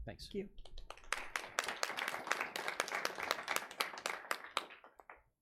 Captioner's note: audience applauds